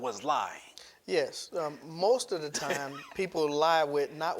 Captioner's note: laughs